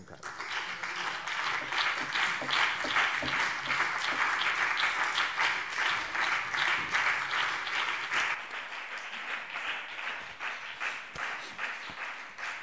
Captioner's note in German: Beifall BÜNDNIS 90/DIE GRÜNEN und vereinzelt CDU